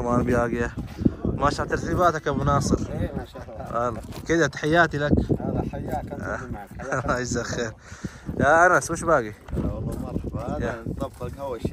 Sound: Arabic

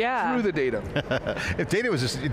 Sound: laughs

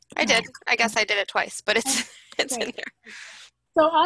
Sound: laughs

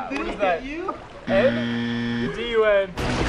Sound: buzzer

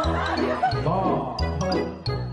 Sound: laughs

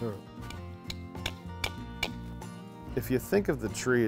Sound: man hammers

